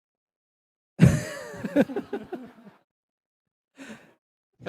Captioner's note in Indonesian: tertawa